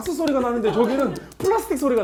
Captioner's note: clack, clack, clack, clack